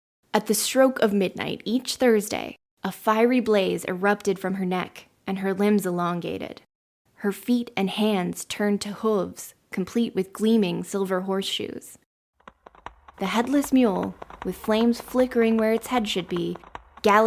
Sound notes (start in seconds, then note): 12.4 galloping hooves and monstrous screams in the background